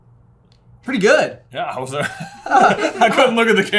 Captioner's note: chuckles